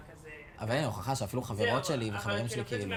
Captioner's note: speaking foreign language